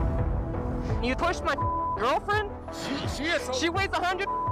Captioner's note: beep